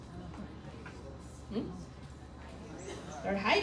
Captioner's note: crowd mumbling